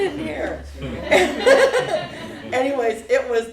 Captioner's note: laughter